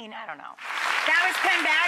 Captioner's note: audience clapping